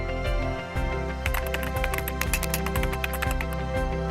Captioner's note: clicking